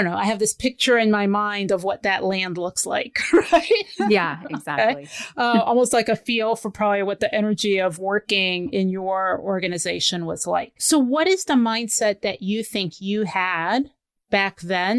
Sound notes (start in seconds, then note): 3.2 laughs